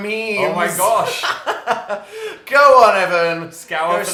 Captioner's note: laughs